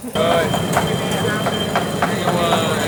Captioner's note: chattering